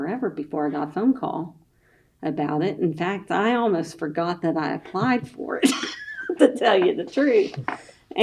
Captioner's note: laughs